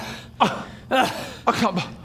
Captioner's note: ugh